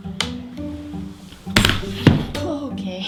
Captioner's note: quirky string music; thud